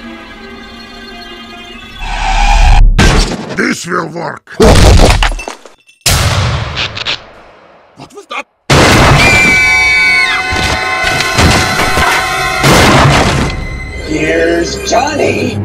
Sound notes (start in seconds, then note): 9.2 fake n' ghey scream